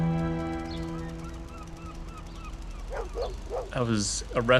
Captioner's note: seagulls crying & dog barking